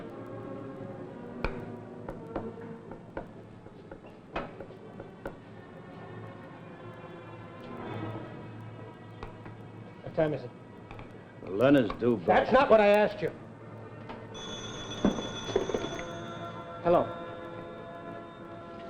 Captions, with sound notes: - What time is it? - Len is due back-- - That's not what I asked you! (telephone ringing) Hello?